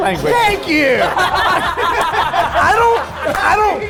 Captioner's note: all laughing